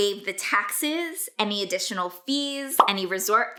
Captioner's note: bubble popping